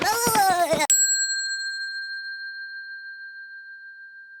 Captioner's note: bell dings